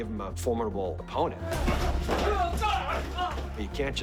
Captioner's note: grunting